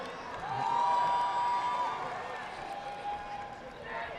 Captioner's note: audience applauding